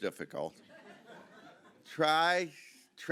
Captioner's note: audience chuckling